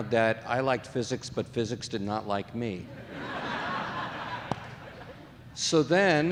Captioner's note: audience laughing